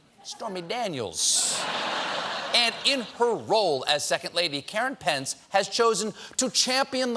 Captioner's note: laughter